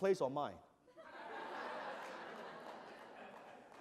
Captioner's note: laughter